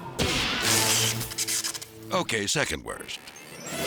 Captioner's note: electricity buzzes